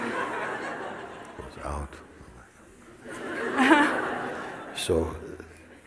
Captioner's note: laughter